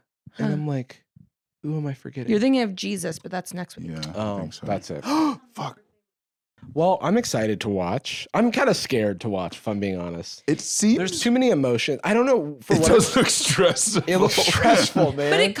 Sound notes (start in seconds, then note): 5.0 gasps